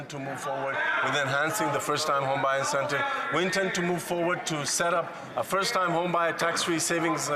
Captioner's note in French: voix de l'interprète